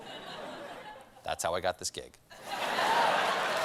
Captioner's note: applause; laughter